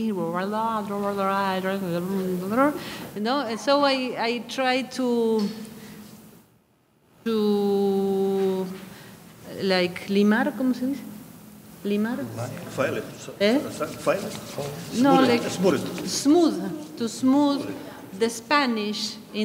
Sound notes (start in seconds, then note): 5.4 speaking in a foreign language